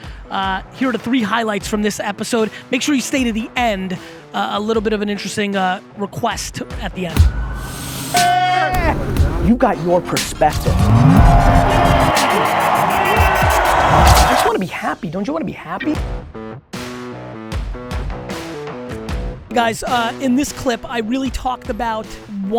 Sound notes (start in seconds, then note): 11.9 crowd cheers; 16.7 upbeat music